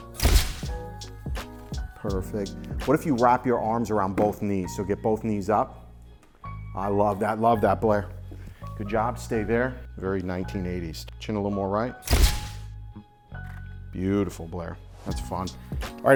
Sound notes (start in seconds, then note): 0.1 shutter clicks; 12.1 shutter clicks